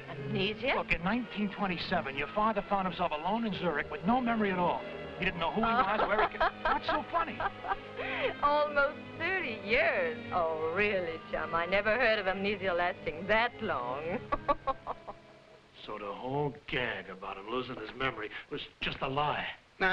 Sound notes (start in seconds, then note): 5.6 Raina laughing; 14.0 laughing